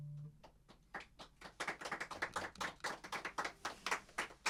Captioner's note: applause